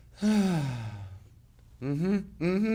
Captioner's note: sighing